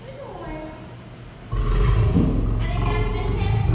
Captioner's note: lion growl